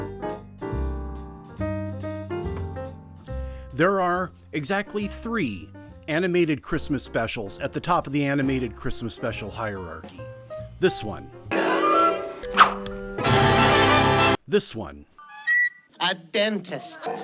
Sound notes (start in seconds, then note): 12.4 yoink sound; 15.2 high-pitched squeak